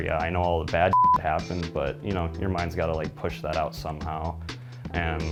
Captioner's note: beep